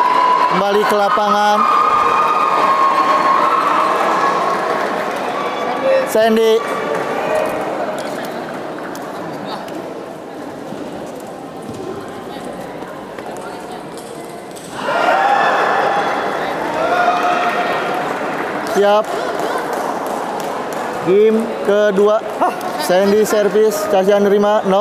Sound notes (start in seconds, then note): 14.8 applause